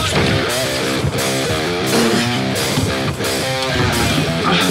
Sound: upbeat music plays; grunts

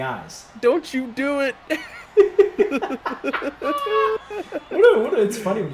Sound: laugh

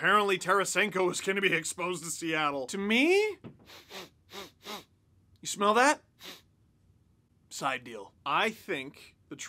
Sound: sniffs aggressively

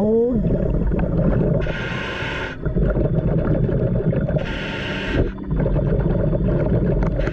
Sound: water bubbling; scuba breathing

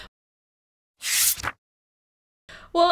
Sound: transition Sound

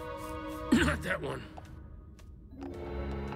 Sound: coughing

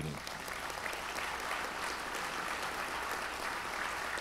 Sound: audience applauds

